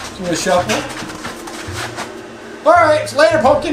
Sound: indistinct chatter

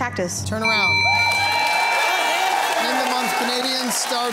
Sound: cheering and applause

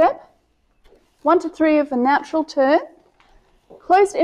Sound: steps

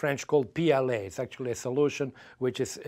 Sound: foreign language

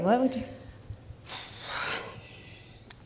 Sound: exhales

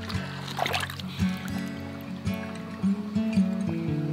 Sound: splashing water; calming acoustic guitar

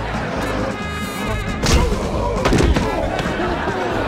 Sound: groaning

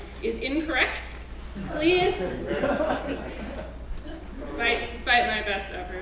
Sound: laugh

